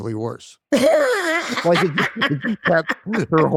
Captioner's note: both laugh